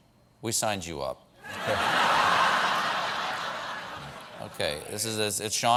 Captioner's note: laughter